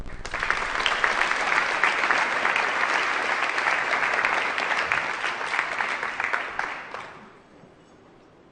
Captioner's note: applause